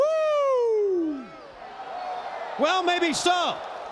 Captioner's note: crowd cheering